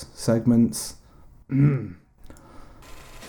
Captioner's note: clears throat